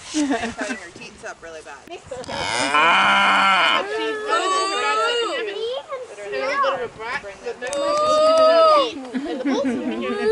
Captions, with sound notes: ... and cutting her teats up really bad. MMMOOOOO!!! (Much moooing from munchkins....)